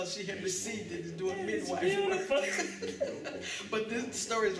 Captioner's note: laughter